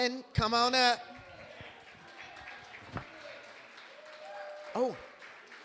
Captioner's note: applause